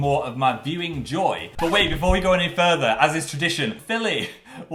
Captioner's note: record scratches